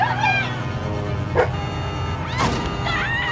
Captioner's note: Aboiement de chien